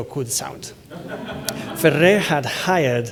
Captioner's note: laughter